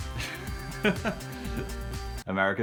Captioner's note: laughs